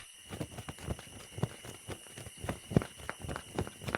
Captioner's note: flapping